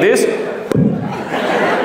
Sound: pop

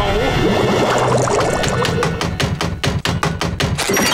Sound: knocking

